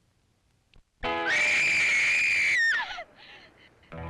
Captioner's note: Jane screams